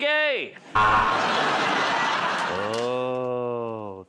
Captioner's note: buzzer